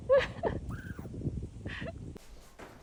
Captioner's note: squawking!!!